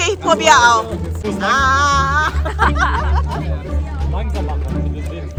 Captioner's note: laugh